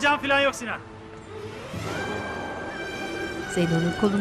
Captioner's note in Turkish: Araba sesleri